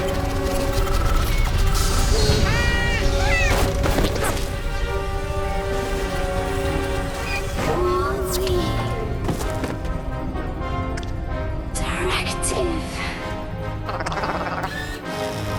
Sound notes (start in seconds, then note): 7.5 groaning; 11.4 whispering